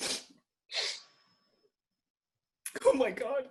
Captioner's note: sniffling